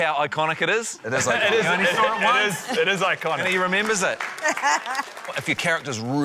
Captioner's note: laughs